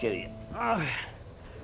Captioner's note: groan